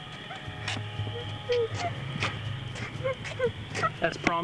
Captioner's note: girl whimpering